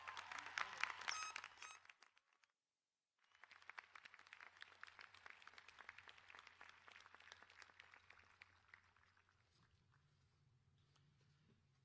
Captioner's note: applause